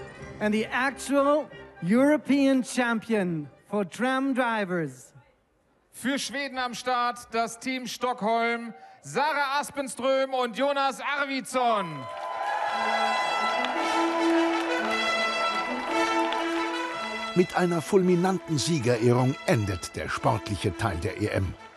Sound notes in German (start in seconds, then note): 11.7 Jubel, Applaus; 12.7 Fanfare